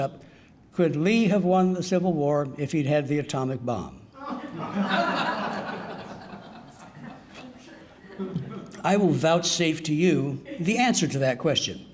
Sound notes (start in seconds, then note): 4.2 audience laughing